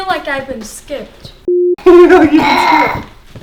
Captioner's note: beep